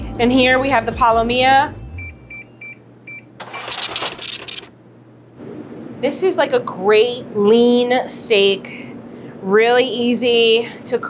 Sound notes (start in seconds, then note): 1.9 scale beeps and brrhs